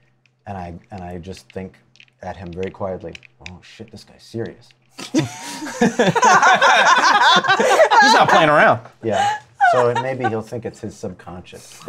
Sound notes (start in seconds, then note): 5.0 laughter